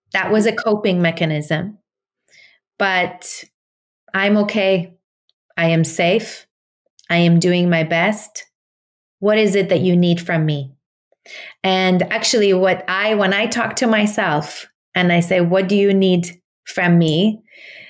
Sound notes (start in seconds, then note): none